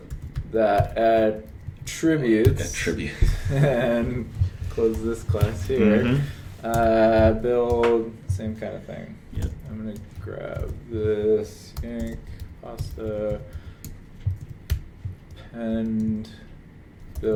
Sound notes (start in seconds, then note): 3.1 laughter